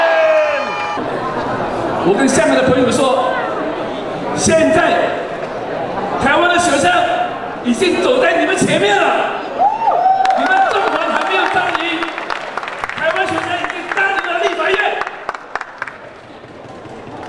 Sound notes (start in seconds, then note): 0.6 shouting; 9.4 cheering sounds